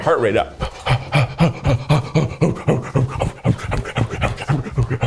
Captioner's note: inhaling & exhaling